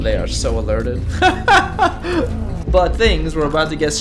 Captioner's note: pained laughter